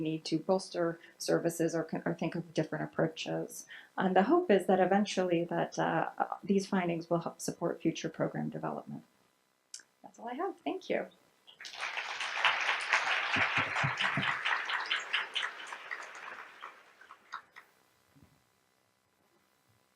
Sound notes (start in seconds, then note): 11.5 audience applauds